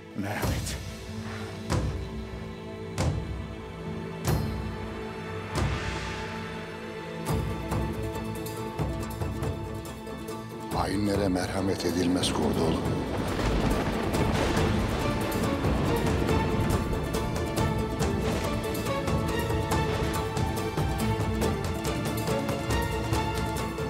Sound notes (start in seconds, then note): 1.6 Müzik - Vurmalılar; 12.9 Gök gürültüsü efekti; 18.3 Müzik - Vurmalılar ve yaylılar